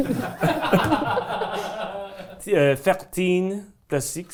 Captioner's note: everyone laughing